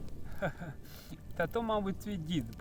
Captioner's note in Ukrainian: сміх